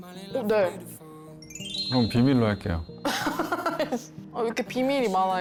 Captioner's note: Bill Gates-level secret sound effect